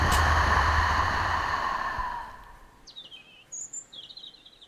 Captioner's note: long breath